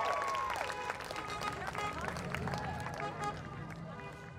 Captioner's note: horns honking